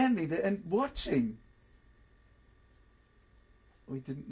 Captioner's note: pauses for 3 seconds